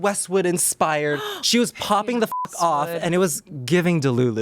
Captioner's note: beep